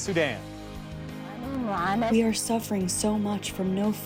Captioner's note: through translator